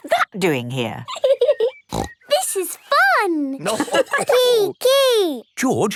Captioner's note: giggling and snorting; laughter